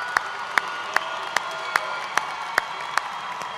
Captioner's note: cheers and applause